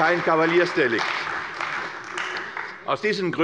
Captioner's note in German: Beifall bei der CDU